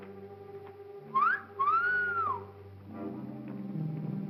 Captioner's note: ominous music; Gail whistles; ominous music